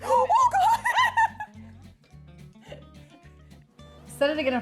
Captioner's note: laughs; chuckles